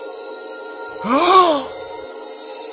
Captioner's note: Teddy gasps